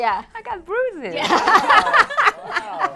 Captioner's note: all laugh